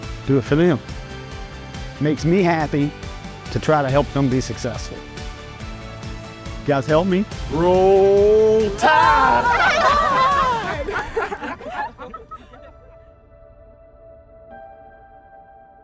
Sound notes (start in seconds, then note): 10.3 and students laughing; 13.0 hopeful music